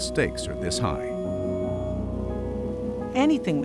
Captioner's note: crackle of particles flying through the air